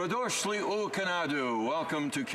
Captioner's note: speaking alternate language